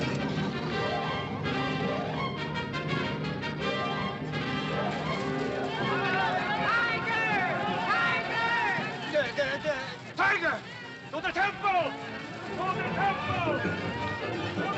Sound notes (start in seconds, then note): 0.0 dramatic music; 6.8 villagers shouting; 8.2 dramatic music; 9.0 Barber stammering; 11.6 dramatic music; 12.4 commotion; 12.4 dramatic music